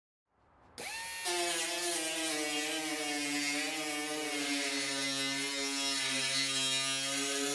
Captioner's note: metal grinder